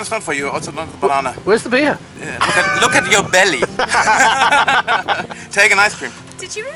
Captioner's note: laughter